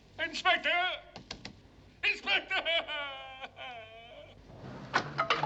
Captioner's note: crying